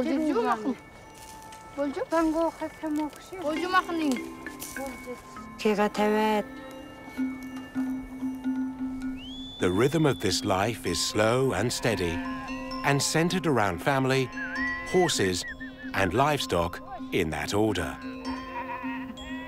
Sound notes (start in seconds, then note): 1.1 speaking Uyghur